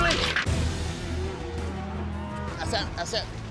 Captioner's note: cattle mooing